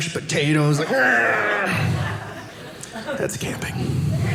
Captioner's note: audience laughing